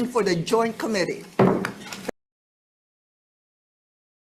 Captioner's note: hammering gavel